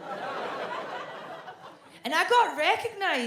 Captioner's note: audience laughs